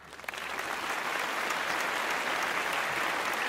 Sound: applause

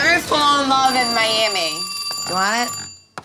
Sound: phone rings

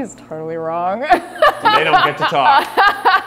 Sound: laughs

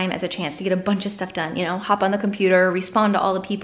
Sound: none

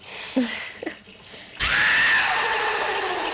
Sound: laughs

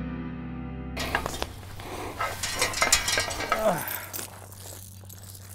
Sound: fence clanging

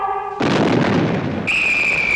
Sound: boom

